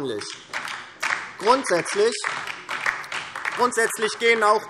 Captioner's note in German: Beifall DIE LINKE